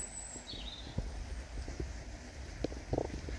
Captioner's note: birdsong